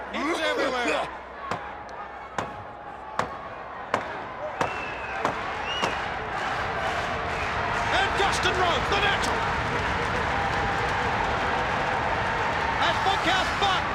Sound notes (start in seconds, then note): 2.3 crowd cheering